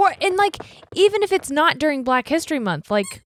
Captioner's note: dog toy squeaking